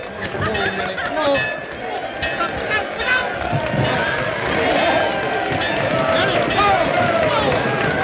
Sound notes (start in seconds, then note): 0.0 crowd cheering